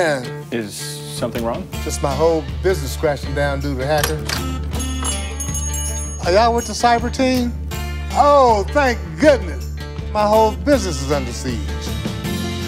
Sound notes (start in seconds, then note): 4.4 bell ringing